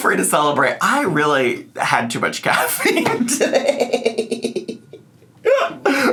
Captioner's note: laughing